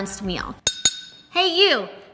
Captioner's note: glass clinks